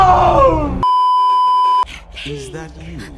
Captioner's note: beeeeeep